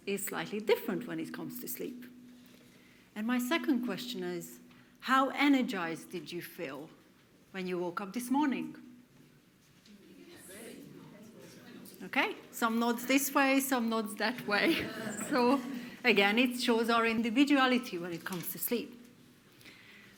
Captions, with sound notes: is slightly different when it comes to sleep. And my second question is, how energised did you feel when you woke up this morning? (audience murmurs) Okay, some nods this way, some nods that way. (audience laughs) So, again it shows our individuality when it comes to sleep.